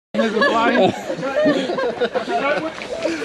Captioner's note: laughter